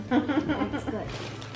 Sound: murmurs; laughs

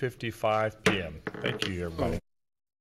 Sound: hits gavel

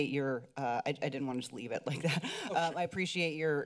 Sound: chuckling

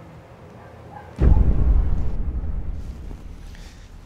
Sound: booming thud

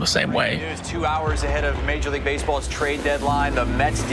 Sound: fireworks crackling

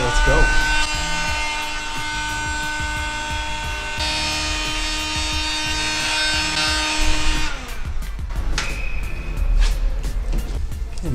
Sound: heat gun whirring

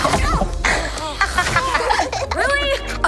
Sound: laughing

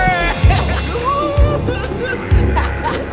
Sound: laughs

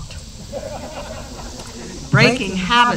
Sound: laughter

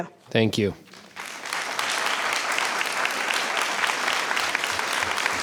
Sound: audience applauds

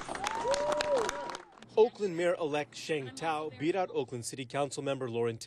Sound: applause

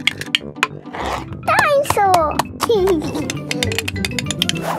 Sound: giggling

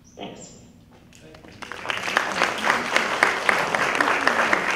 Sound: applause

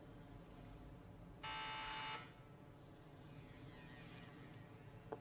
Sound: doorbell buzzing

